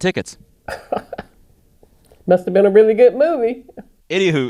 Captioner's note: laughter